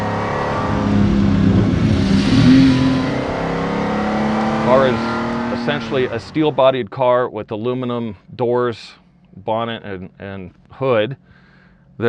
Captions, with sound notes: (gears shifting) The car is essentially a steel-bodied car with aluminum doors, bonnet, and hood.